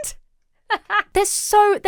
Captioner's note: laughs